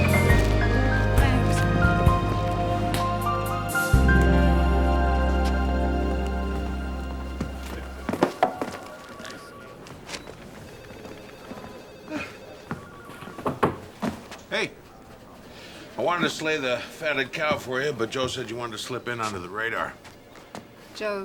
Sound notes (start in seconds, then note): 12.0 sighs; 13.2 knocks